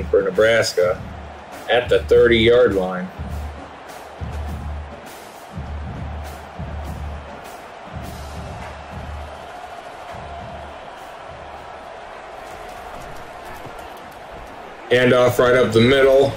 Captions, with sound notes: for Nebraska at the 30 yard line. (crowd cheering) Hand off right up the middle,